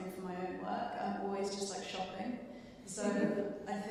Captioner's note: chuckling